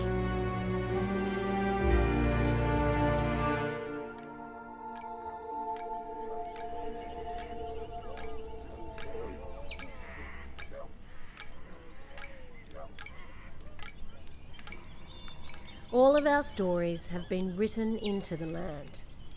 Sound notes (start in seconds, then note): 0.2 wondrous music; 8.8 sticks clicking